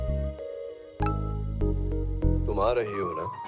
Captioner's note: Cell phone beeps